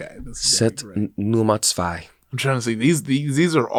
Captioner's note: speaks in a foreign language